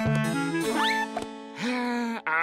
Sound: sighing

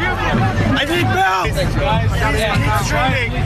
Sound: people clamoring

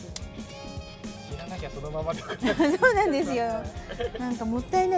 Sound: laughs

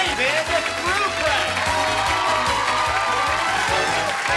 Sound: cheers and applause

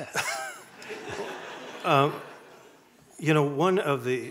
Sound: audience laughing

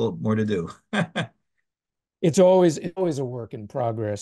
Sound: laugh

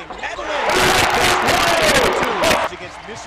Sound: very loud static

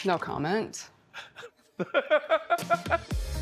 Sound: laughing

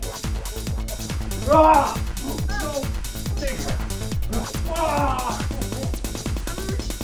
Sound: screaming

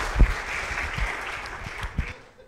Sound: audience applauds

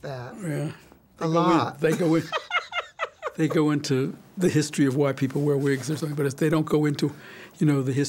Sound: laughs

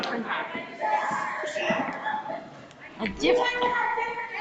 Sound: people chattering

